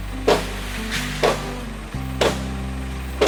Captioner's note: sound of hitting with a hammer